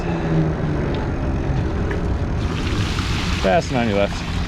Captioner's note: wheels whirring